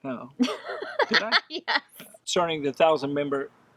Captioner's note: laughs